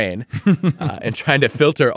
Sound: laughing

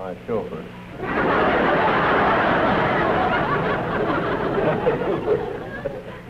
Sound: laughter

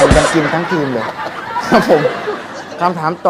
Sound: laughing sound

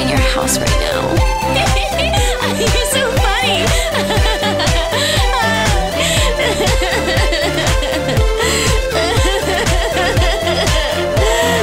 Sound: woman laughing; woman crying

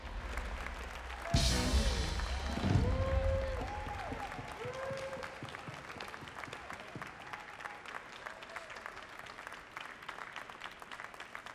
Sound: applause

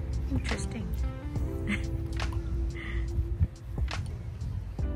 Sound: chuckles, slightly embarrassed at people spotting her filming them

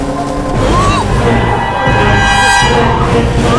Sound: brakes squeal

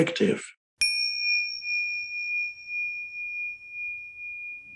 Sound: bell rings

